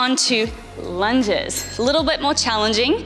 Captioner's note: bell chimes